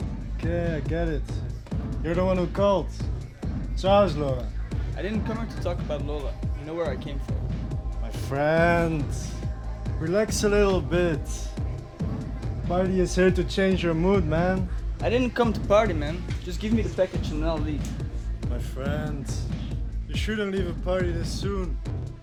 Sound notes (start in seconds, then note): 3.7 speaks foreign language